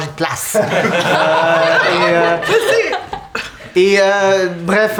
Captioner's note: the group laughs